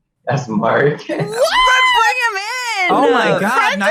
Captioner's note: everyone gasps